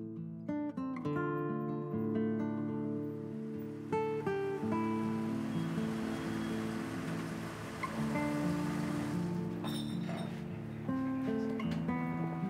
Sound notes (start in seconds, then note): 3.1 car engine